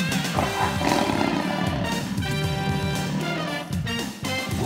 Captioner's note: tiger roaring